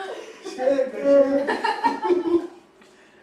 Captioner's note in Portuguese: risos